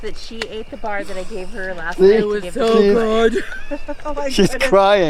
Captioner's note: laughs